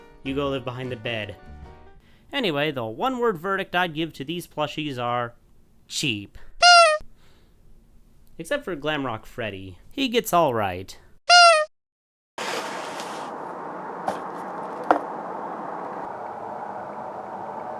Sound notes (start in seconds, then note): 6.5 honk; 11.2 honk